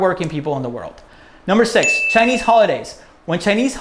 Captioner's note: bell